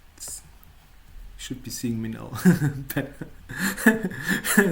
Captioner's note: chuckles